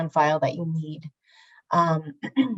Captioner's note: clears throat